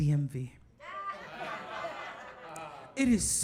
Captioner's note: audience laughing